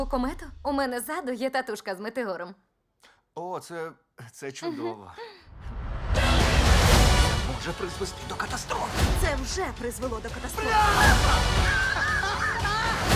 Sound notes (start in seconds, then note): 4.6 chuckles; 10.6 screams; 10.6 laughs